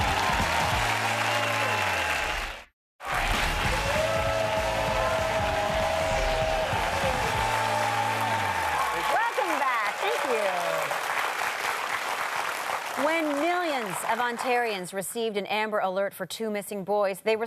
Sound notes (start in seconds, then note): 2.0 audience cheers and applause; 3.1 upbeat instrumental music; 5.3 audience cheers and applause